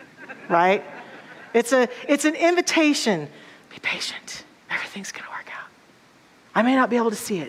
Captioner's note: audience laughter